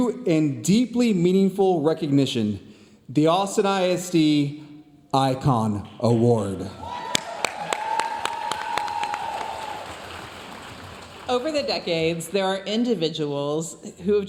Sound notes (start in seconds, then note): 6.8 audience cheering and applauding